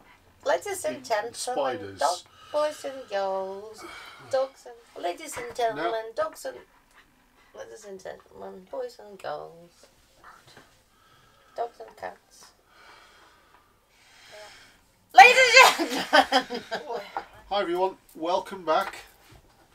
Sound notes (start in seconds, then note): 15.3 laughs